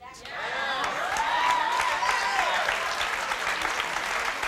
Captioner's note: audience cheers